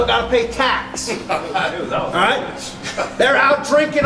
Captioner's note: laughing